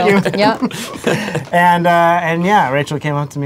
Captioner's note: laughter